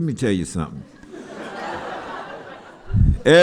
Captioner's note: laughter